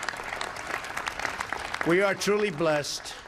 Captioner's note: applause